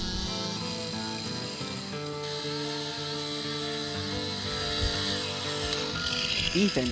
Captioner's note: chainsaw buzzing; relaxing guitar music